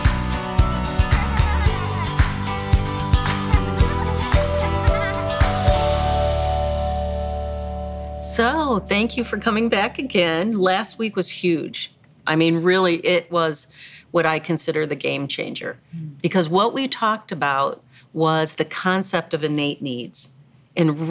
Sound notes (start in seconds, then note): 0.7 children laughing